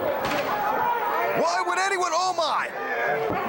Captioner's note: crowd chatter